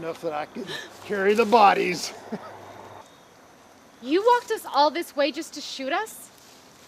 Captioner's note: laughs